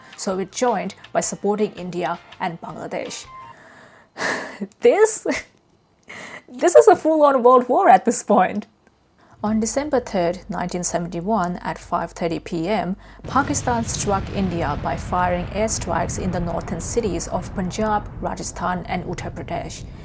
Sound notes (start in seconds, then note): 3.5 sighs